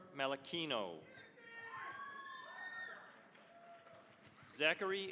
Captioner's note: cheering, applause